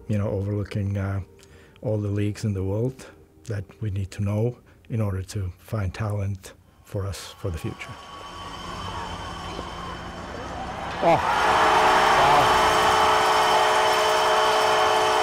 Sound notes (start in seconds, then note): 7.3 crowd buzzing; 11.1 horn blaring